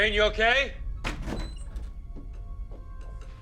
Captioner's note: door open close